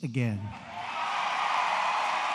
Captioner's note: applause